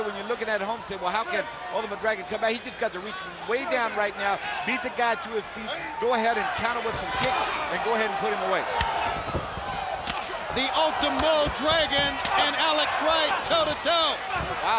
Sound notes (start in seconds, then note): 8.6 blows thudding